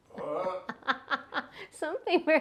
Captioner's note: laughing